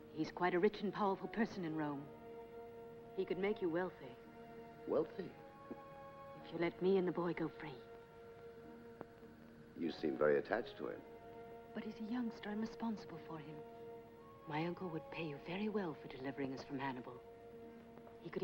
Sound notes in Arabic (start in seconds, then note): 5.5 يسخر